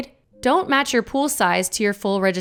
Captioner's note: graphic chiming